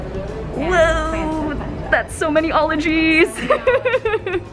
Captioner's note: laughing